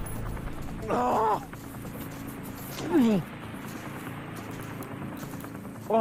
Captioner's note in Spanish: Quejidos